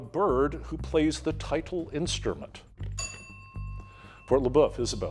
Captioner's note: bell dinging